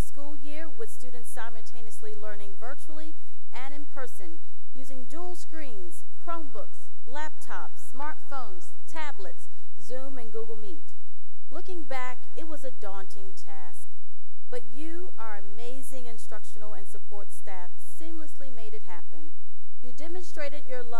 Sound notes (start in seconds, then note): none